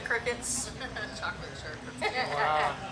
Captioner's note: laughs